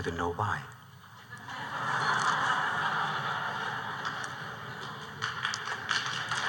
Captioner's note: laughter; applause